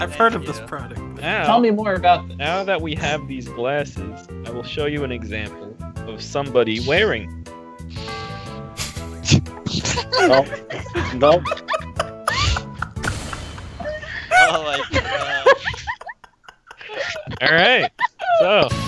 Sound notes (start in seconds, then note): 9.5 they're giggling; 11.4 laughter; 15.9 laughter